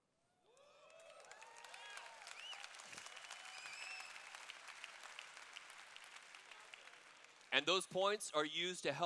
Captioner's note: cheers